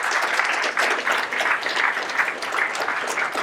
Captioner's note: applause